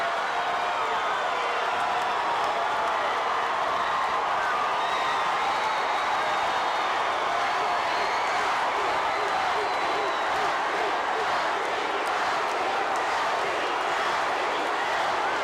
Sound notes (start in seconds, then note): 0.1 audience cheering continues; 8.4 audience chanting